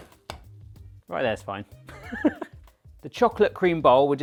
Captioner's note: laughs